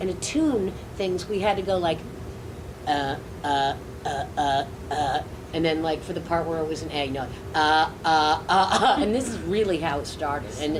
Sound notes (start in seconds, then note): 4.0 low pitched rhythmic grunting; 7.6 high pitched rhythmic grunting